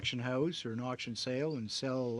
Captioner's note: speaking French